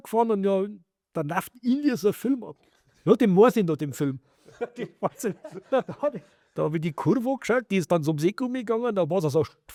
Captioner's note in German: gelächter